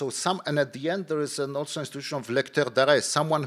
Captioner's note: speaking in foreign language